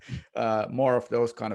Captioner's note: laughing